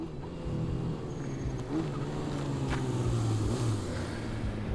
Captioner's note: car engine rumbling